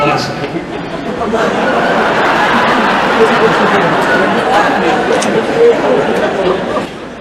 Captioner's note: laughter